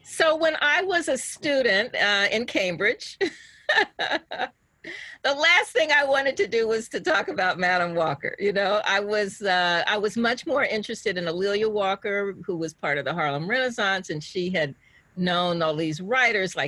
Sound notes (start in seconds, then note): 3.2 laughs